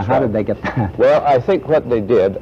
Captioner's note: laughs